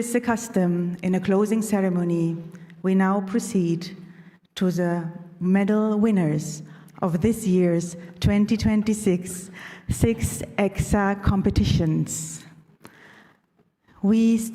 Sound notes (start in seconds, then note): none